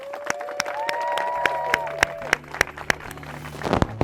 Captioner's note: applause